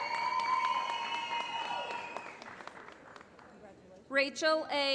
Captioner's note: applause